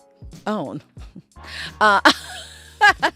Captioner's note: laughing